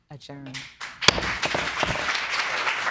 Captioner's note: gavel banging